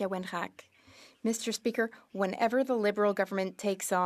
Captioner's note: speaking French